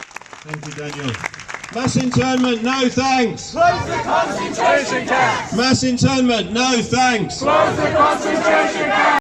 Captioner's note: crowd chanting